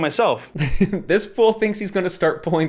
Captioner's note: laughs